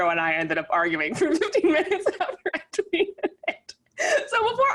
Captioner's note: laughs